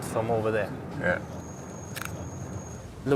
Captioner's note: camera shutter clicks